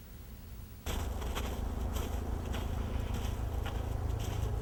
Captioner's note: air whooshing